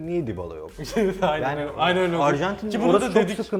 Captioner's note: laughs